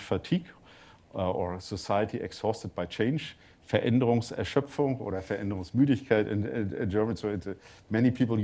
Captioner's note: german